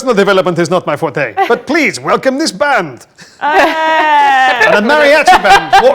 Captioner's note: group laughs